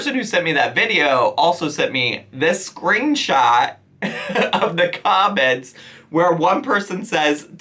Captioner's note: chuckles